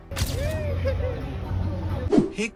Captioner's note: giggled in the background